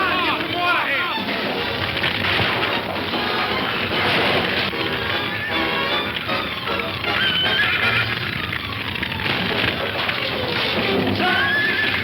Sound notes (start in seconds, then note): 0.1 fire crackling; 1.0 dramatic music; 7.0 horse whinnies